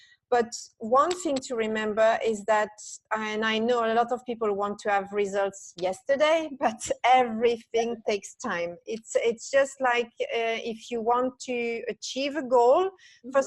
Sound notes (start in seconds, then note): 6.8 laughs